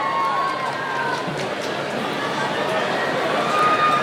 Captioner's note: cheering